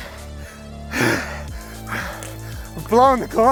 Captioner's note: heavy breathing